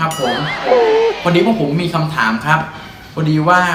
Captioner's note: laughter